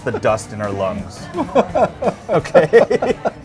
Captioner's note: laughs